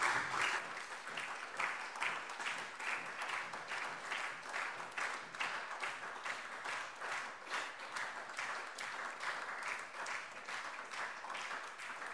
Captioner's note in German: Anhaltender Beifall SPD - Beifall DIE LINKE